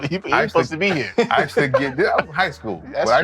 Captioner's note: laughing